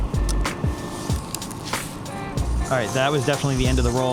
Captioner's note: camera clicking and whirring